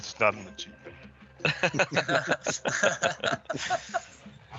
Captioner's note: all laughing